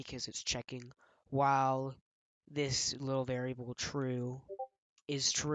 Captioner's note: Discord ping